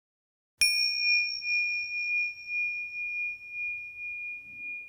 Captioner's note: bell ringing